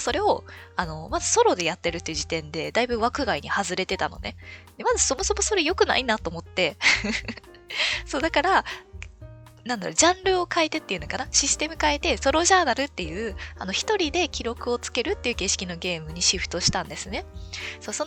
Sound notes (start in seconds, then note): 6.9 laughs